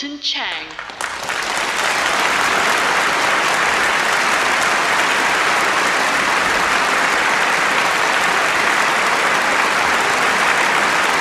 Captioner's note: audience claps